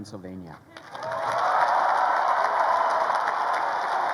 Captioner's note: crowd cheering